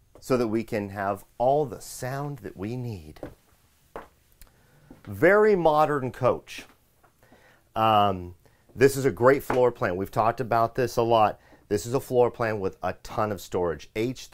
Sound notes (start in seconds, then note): 3.9 feet thumping